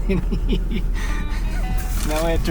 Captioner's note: laughing